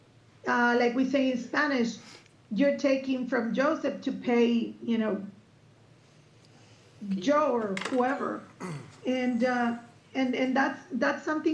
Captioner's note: clears throat